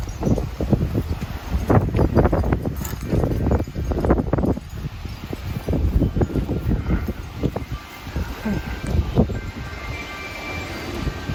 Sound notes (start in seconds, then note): 1.5 bell chimes; 1.5 wind whooshing